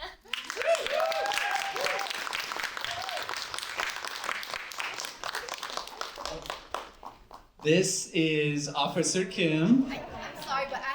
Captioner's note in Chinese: 掌聲